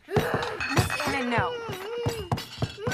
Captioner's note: moaning, Kicking Table